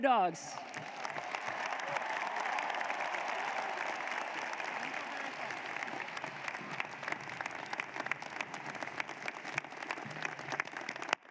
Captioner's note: applause